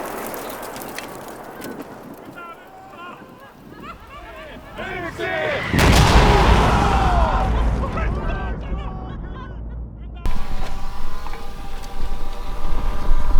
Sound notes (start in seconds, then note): 2.2 swearing & laughing